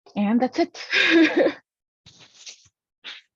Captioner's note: laughs